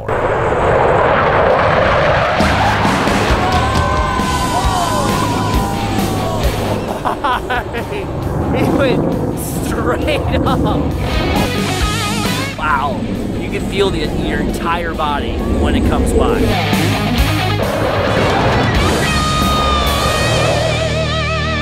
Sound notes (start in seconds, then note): 0.2 jet engine roaring; 2.4 upbeat music; 3.7 crowd cheering; 4.8 laughs nervously